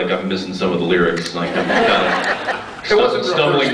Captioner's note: laughs